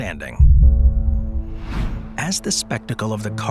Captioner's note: suspenseful music continues; image whooshes